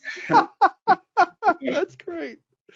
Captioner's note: laughing